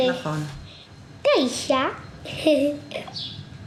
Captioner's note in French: Hebrew spoken language